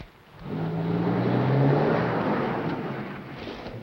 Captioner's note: car pulls up